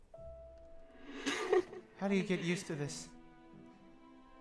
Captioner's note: laughs